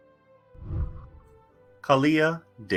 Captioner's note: whooshing